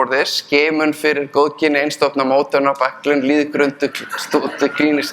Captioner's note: speaking in Icelandic